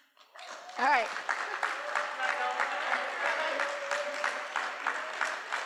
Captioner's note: cheering